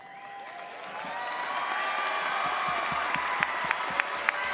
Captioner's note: audience applauds